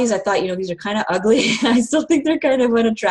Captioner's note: laughs